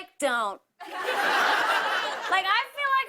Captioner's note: laughter